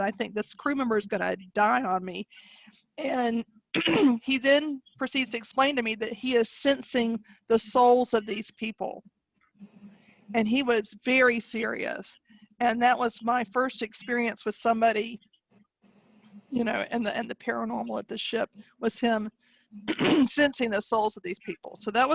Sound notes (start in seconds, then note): 3.7 clears voice; 19.8 clearing voice